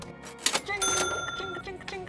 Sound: cash register rings

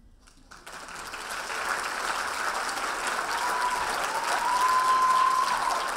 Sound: audience applauding and cheering

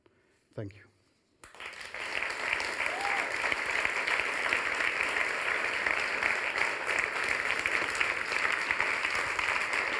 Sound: applause

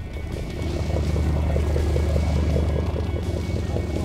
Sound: boat engine roars

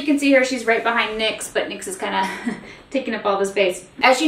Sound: giggles

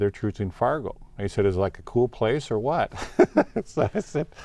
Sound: laughing

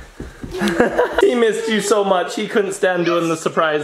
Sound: laughs

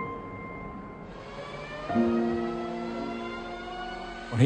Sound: jet engines roaring

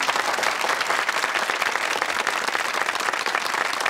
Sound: audience applauding

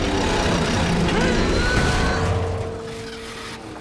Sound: thudding

